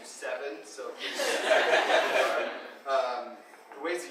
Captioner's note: audience laughing